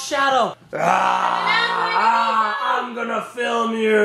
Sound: roars

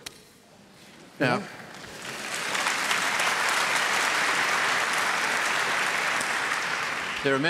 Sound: applause

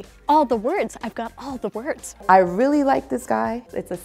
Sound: none

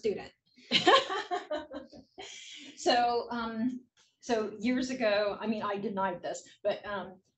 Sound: laugh

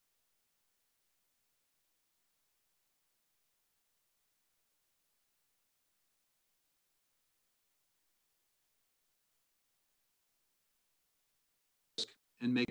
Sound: no audio

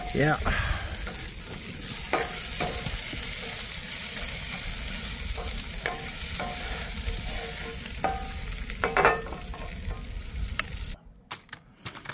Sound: sizzling

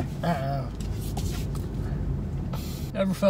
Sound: sniffs

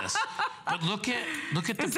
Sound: laughter

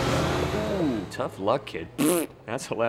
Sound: raspberry

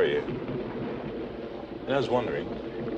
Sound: thunder rumbles

